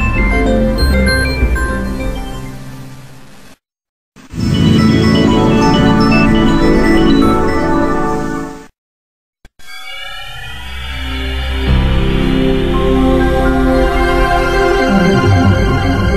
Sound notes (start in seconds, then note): 4.2 Windows NT 5.0 shutdown sound